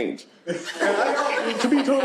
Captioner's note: laughter